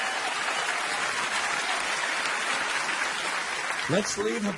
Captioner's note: audience applauding